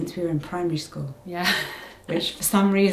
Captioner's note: laughs